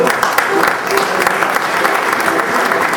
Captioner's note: crowd applauding